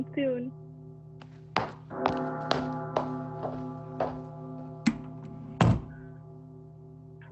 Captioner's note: footsteps, door closes